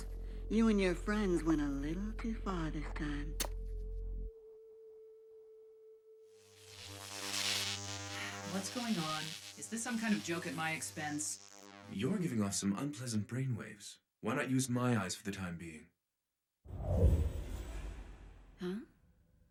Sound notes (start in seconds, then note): 6.5 static hissing; 8.5 over comms